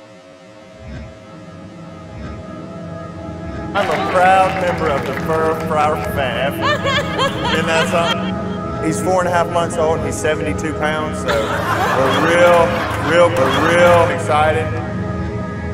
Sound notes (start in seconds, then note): 5.8 Paula laughs; 11.3 Paula cackles